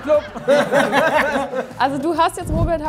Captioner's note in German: Lachen